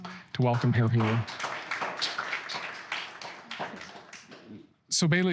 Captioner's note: applause